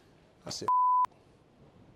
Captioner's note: beep